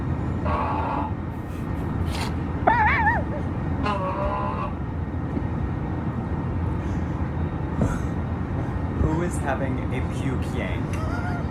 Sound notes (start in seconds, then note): 0.4 groaning over plane's PA system continues; 1.3 laughs; 4.0 groaning over plane's PA system continues; 8.0 chuckles